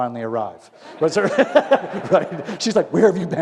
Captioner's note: laughter